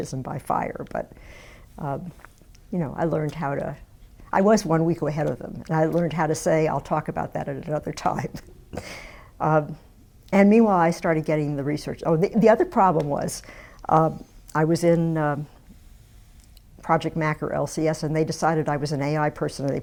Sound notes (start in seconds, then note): 9.3 laughs